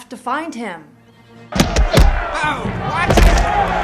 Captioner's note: crowd cheering